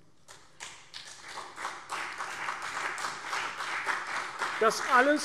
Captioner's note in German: Beifall CDU und BÜNDNIS 90/DIE GRÜNEN